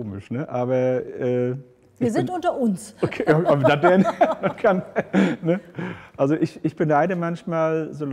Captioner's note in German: lacht